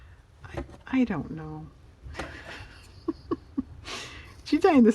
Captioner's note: laughs